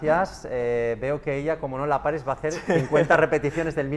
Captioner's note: laughs